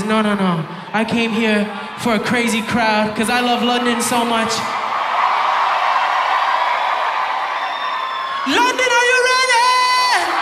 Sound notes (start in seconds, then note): 3.8 audience applauding